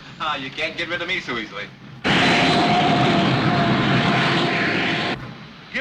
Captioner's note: machine whirring